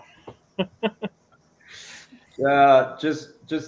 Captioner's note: soft chuckle